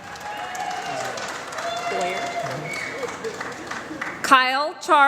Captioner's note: applause